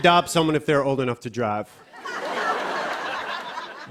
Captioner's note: laughter